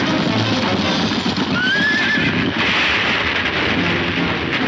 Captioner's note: lady screaming; horse neighing